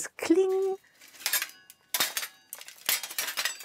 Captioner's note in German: Metallisches Scheppern